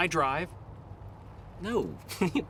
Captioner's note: chuckles